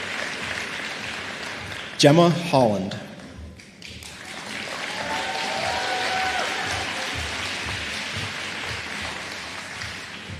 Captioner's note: applause